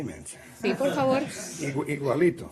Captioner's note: laughter